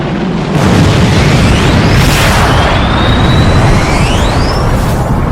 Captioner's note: plane crash bangs